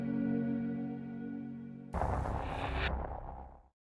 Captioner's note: static sound